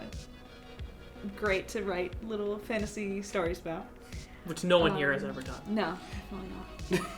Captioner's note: laugh